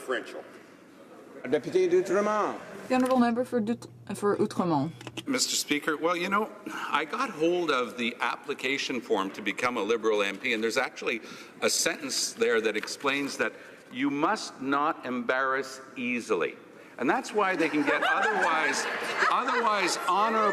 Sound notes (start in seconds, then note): 9.6 speaking French